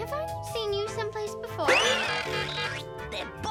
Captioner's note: alarm blaring; bow tie whizzing